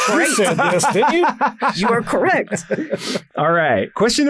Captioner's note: laughs